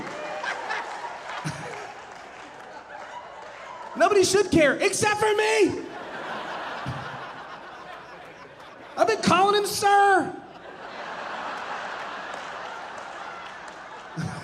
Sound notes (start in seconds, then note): 0.0 audience laughing; 5.8 audience laughing